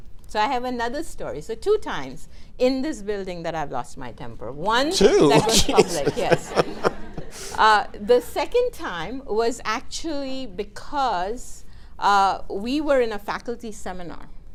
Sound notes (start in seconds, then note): 4.9 laughing